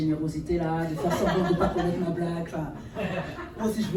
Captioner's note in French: rires